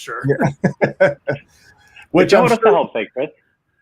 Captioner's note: laughing